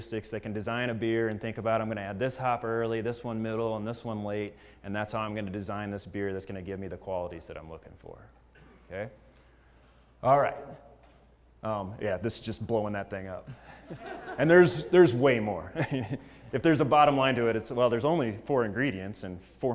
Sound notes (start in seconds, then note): 13.5 laugh